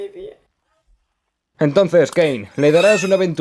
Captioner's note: whimpers